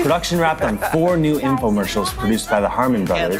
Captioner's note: male Voice